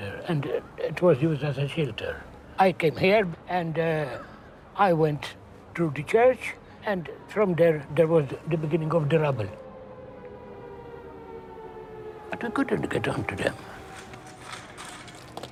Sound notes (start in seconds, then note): none